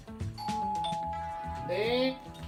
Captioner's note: ding dong! 🔔